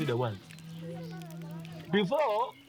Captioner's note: fire crackling